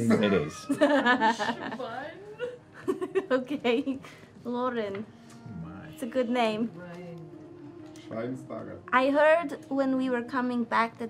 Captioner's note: giggles